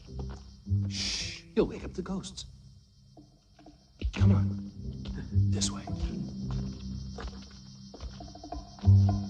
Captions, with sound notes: (shushing) You'll wake up the ghosts. Come on. This way.